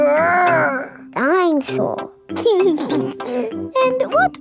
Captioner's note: giggles